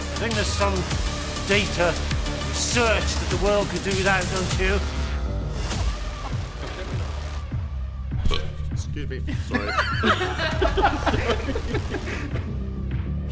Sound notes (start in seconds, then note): 8.2 man belches; 8.7 all laughing